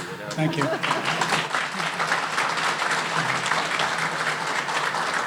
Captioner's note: audience applauding